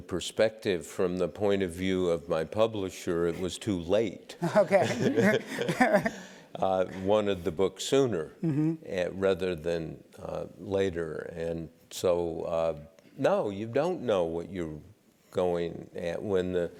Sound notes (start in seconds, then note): 4.4 laugh